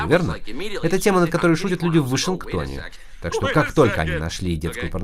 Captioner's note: laughing